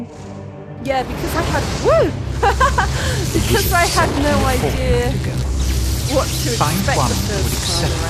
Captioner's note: laughing